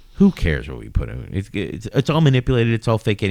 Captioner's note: uh